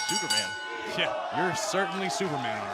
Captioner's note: bell